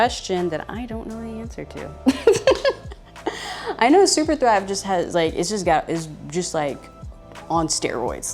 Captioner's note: laughs